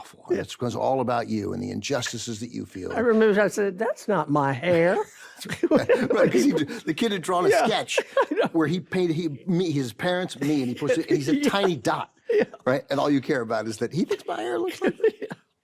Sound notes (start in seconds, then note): 5.4 laughs; 5.5 carol laughs; 7.4 laughs; 10.4 laughs; 14.1 laughs